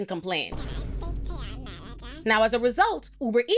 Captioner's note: woman speaking in foreign language